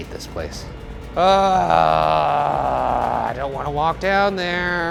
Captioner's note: groaning